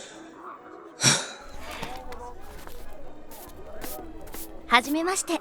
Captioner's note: Ryuichi sighs and dusts himself off